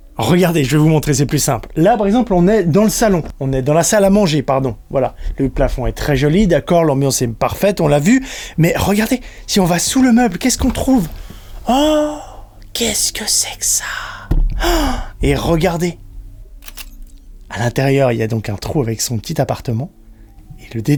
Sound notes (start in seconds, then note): 11.6 exclamation; 16.6 door sound